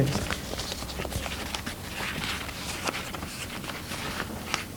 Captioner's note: paper shuffling